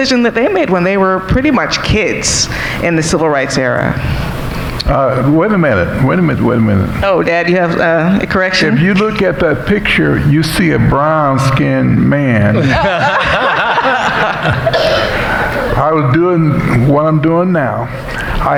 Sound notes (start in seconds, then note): 12.5 laughing